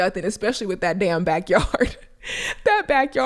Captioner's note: laughs